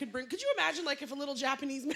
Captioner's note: laughter